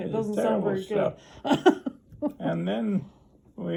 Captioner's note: interviewer laughs